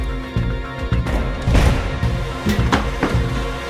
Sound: door slams

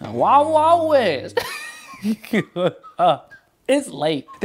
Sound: laughing

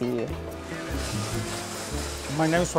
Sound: sizzling

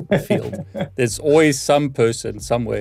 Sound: laughing

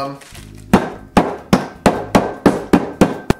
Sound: banging

